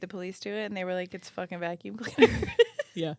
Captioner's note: laugh